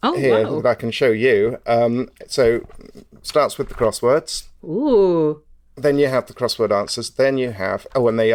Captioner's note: rustles pages